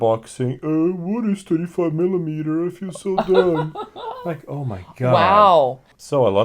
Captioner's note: mocking; laughs